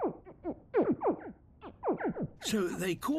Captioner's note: various tones of squeaking